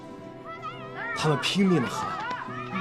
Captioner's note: they shouted at the top of their voice